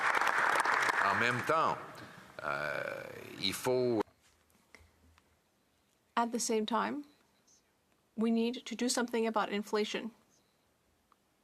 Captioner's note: some Applause